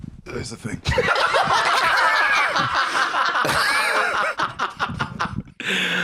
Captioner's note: all laughing